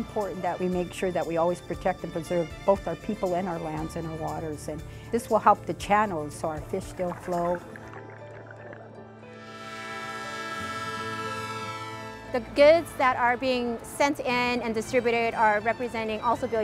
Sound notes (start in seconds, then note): 6.4 water bubbling; 9.3 train horn